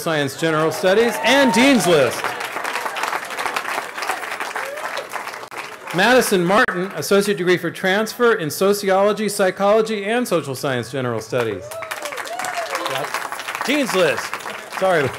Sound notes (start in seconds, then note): 3.9 applause; 11.5 cheering